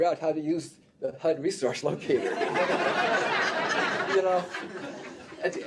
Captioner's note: laughter